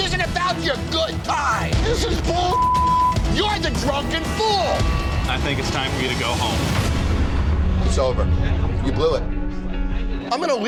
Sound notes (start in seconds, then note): 2.5 beep; 7.0 dramatic music